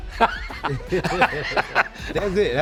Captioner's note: laugh